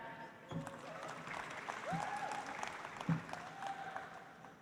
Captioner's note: audience applauds